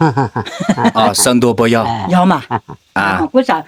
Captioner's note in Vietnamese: tiếng cười